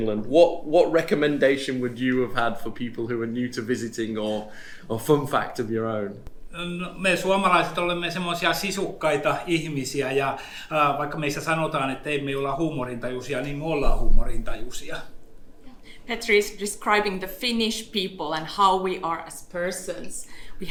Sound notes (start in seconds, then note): 6.8 speaks in Finnish language